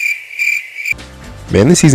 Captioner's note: crickets and blinking